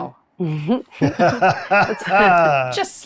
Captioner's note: laughing